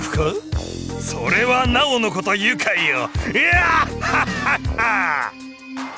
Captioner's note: laugh